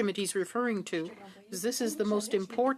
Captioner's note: speaking French